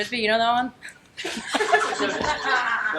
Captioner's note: everyone laughing